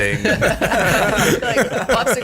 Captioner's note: all laugh